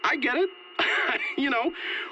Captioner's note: laughs